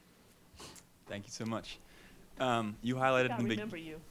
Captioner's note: voiceover